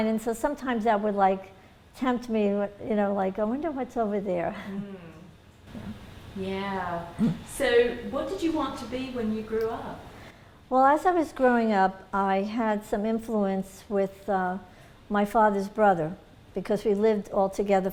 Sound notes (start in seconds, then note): 5.7 laughs